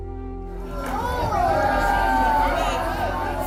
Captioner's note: crowd gasps, cheers